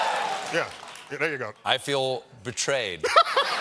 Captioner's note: applause